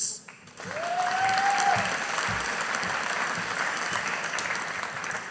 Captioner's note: audience applauding